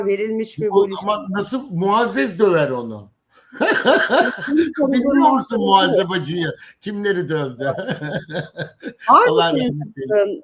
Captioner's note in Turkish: kahkaha